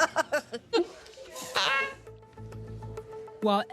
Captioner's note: laughter; laughs; upbeat music